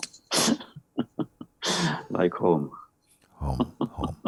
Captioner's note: laughter